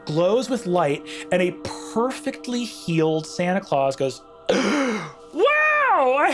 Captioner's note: gasps